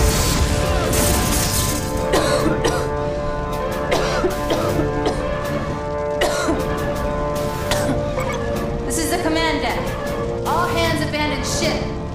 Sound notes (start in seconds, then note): 1.5 coughing